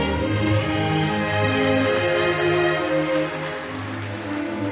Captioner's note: audience applauding